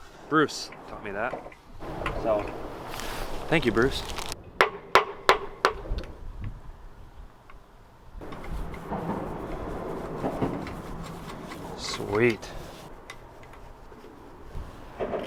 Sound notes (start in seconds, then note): 4.6 knocking